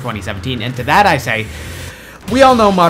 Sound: inhales

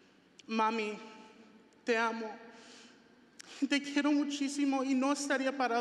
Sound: speaking foreign language

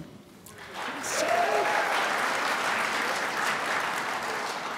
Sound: crowd applauds

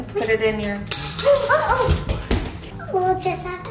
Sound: object thudding

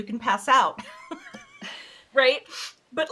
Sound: both laughing

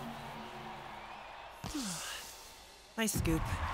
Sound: sighs

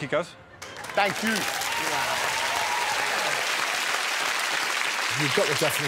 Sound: audience applauding

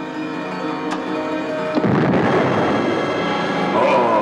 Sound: suspenseful music; explosion; left puppet groaning

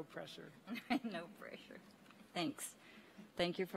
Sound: laughs

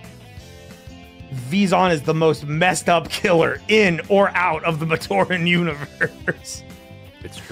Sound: laughs

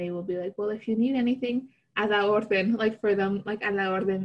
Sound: spanish

